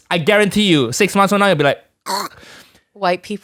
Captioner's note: choking